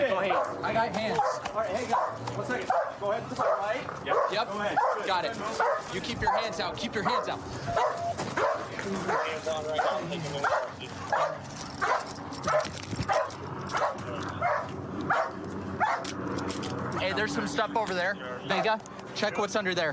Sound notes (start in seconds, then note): 9.0 dog barking